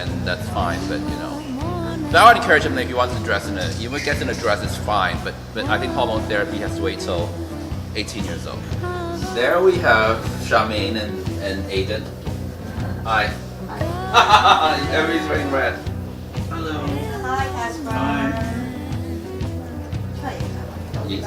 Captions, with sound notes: then that's fine but, you know. But I would encourage him that if he wanted to dress in a, you know, if he gets in a dress, it's fine but I think hormone therapy has to wait 'til 18 years old. There we have Charmaine and Aiden. Hi! (laughing) Everyone's wearing red! - Hi, Casper.